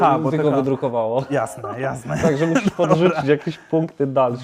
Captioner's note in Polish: śmiech